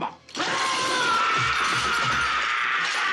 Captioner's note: SCREAMlNG